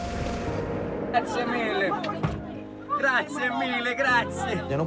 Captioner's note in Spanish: habla en italiano